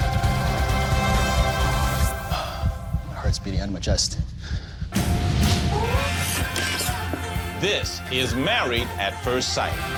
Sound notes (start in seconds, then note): 2.0 sighs; 4.9 upbeat music